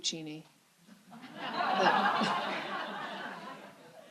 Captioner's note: laughter